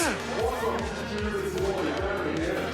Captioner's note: deep voice